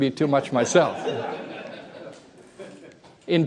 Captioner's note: laughter